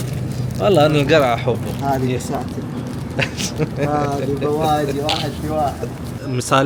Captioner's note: Arabic